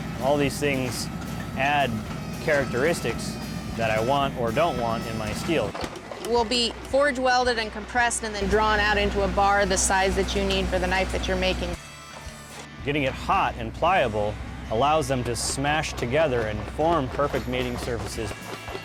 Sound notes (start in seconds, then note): none